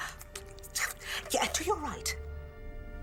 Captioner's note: clicks tongue